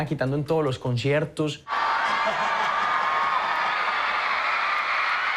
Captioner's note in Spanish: público aclama